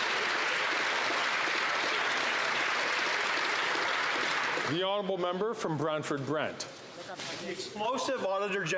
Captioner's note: some Applause